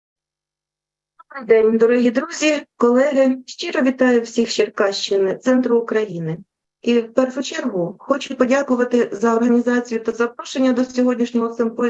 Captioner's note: foreign Language Spoken